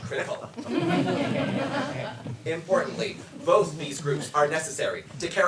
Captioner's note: audience laughs